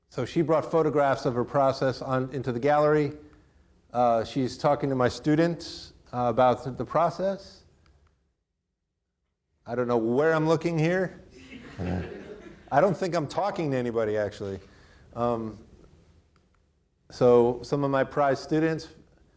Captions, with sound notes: So she brought photographs of her process into the gallery. She's talking to my students about the process. I don't know where I'm looking here. (audience laughing) (chuckles) I don't think I'm talking to anybody actually. So some of my prior students.